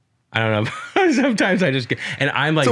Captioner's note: laughs